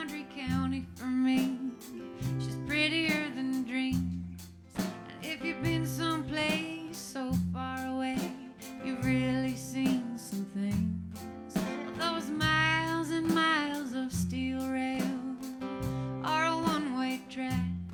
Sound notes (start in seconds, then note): none